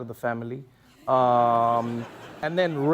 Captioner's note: laughter